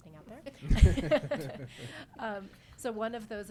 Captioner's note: all laughing